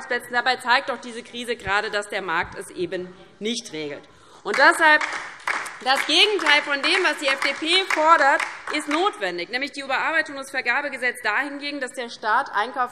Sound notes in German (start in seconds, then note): 4.5 Beifall DIE LINKE